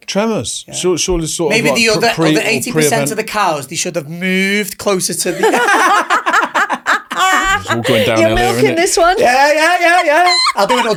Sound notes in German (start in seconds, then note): 5.3 alle lachen